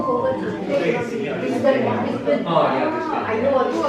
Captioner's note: background chit chatting